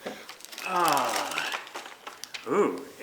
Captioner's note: plastic rustling